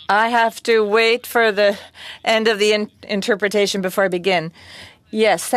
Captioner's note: speaking French